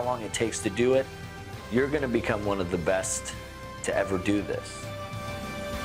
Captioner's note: none